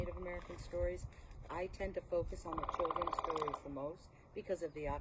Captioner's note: woodpecker noises